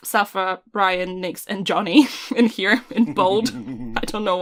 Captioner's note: laughter